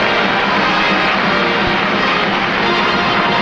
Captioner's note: applause